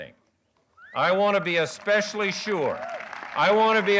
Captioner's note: applause